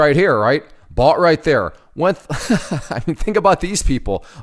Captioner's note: laughs